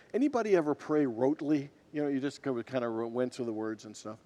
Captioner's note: none